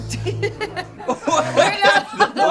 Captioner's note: all laughing